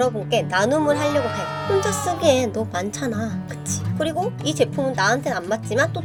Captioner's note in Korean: 비명